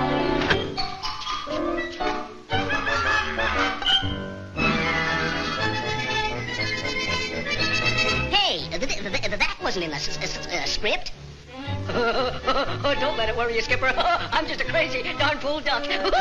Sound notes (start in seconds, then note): 11.7 laughing